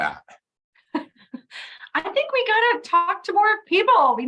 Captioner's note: laughs